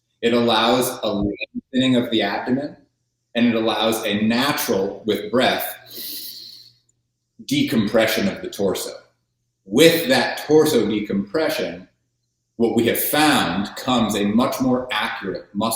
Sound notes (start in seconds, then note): 5.6 inhales